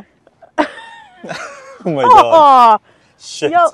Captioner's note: both chuckles